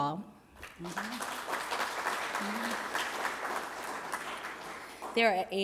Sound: applause

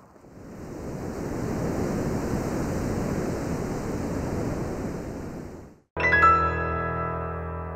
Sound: surf roaring

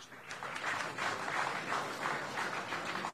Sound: applauding

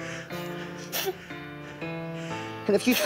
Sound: sobbing

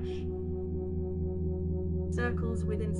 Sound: electronic humming

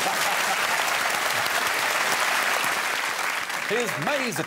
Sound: audience clapping

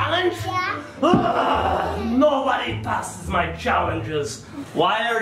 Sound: grunts

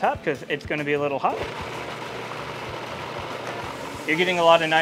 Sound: food processor whirring

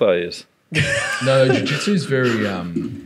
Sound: laughing

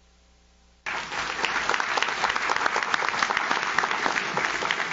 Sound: audience claps

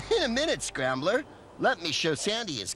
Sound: chuckling

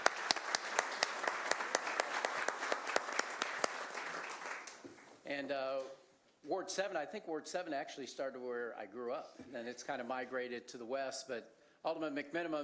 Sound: applause

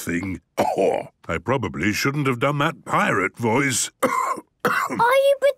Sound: cough

